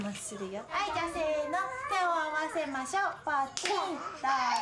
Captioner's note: snap